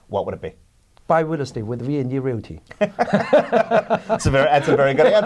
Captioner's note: laughs